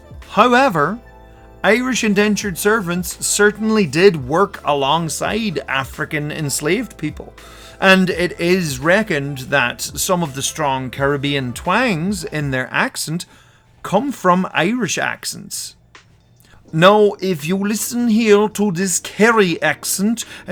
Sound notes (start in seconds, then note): 15.5 in a Kerry accent